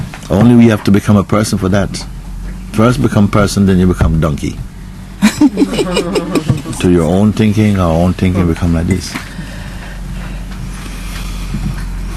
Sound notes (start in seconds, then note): 5.2 laughter